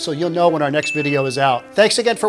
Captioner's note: bell dings